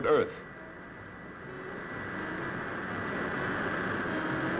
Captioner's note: engine whirring